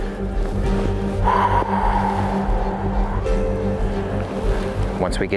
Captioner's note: exhaling